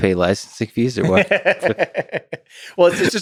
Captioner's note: Tim laughs